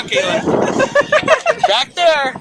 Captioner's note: more laughter